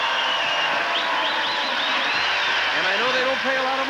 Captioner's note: audience applauding